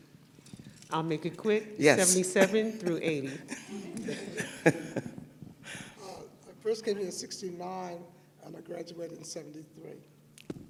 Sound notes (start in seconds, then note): 2.4 laughter